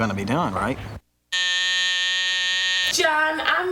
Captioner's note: alarm buzzes